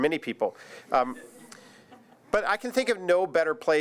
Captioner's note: audience laughs